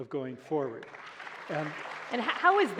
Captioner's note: applause